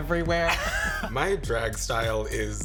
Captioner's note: chuckling